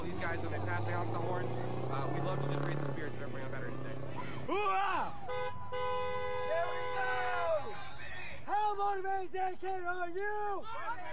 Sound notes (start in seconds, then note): 5.0 horns honking